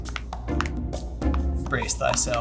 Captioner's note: knuckles cracking; whimsical music